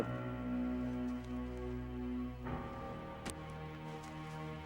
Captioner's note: grunting